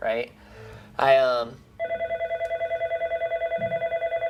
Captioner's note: phone ringing